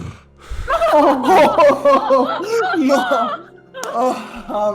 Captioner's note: relieved noises